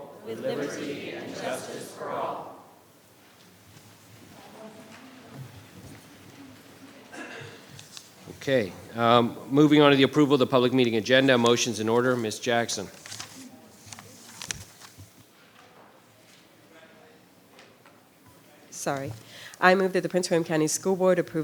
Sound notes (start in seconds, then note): 7.1 clears throat